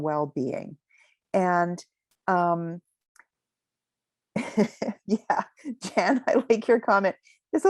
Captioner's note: chuckling